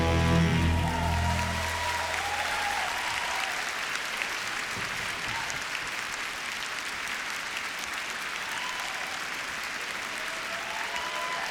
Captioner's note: applause